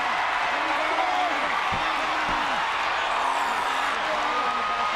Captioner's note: audience cheering continues; wrestlers grunting